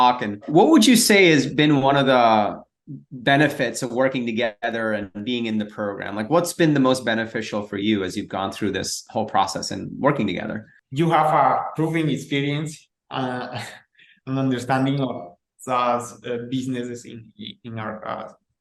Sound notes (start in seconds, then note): 13.5 chuckles